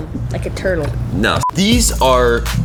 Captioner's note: electronic beep